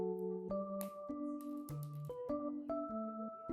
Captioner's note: snap